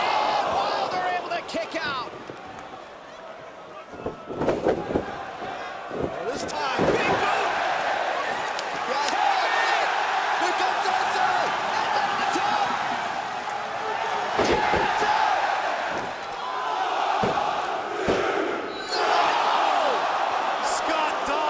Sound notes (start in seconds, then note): 2.6 crowd chatter; 8.6 crowd cheering; 13.2 crowd cheering